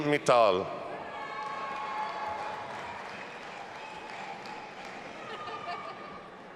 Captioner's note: audience applauding and cheering